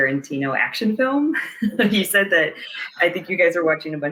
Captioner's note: laughs